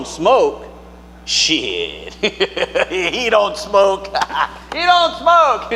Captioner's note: chuckling